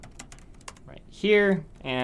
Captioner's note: typing Noises